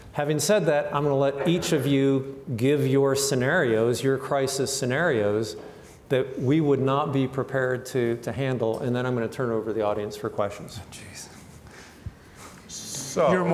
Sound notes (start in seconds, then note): 10.9 whispers; 11.4 breathing heavily